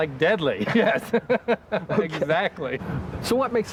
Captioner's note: laughing